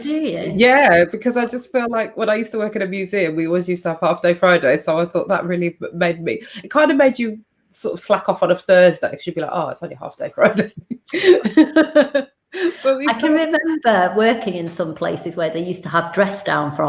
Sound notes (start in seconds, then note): 10.5 laughs